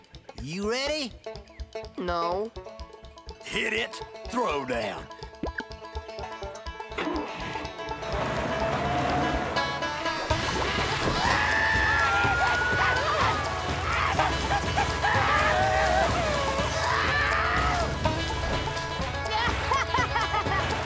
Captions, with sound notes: - You ready? - No. Hit it, throw down. [screaming] [screaming] [laughing]